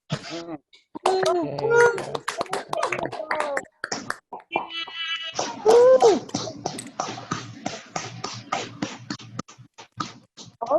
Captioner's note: cheers and clapping